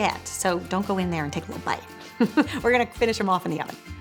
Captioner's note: laughing